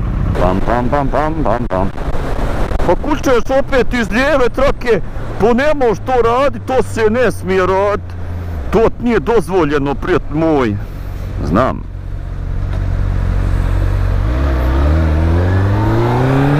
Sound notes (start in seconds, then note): 3.2 thick accent; 11.2 normal accent